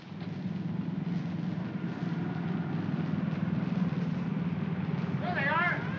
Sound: jeep rumbles; siren wailing

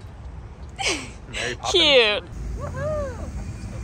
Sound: laughs

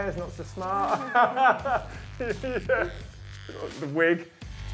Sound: laughs

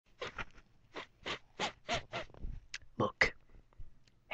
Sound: sniff

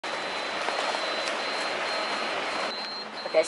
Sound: beeping

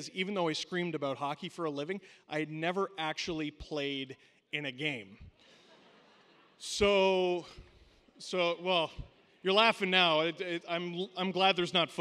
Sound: laughter

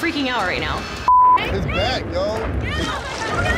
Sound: beep

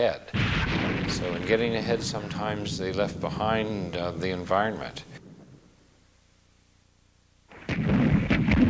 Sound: explosion; explosions

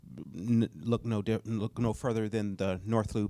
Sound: none

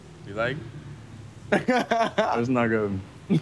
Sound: laughing

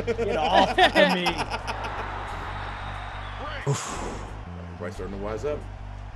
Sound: laugh

